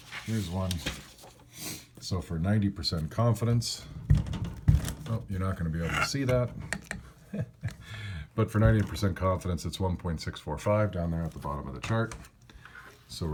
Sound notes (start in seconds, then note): 7.0 laugh